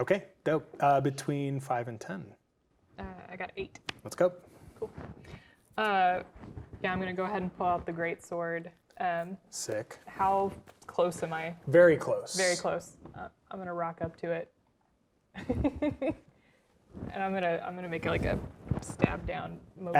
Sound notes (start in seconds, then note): 15.9 laughing